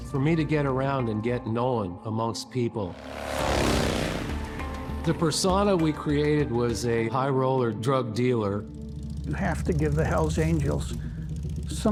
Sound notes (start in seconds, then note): 5.3 engine revs